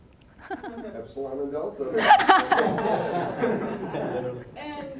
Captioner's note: all laughing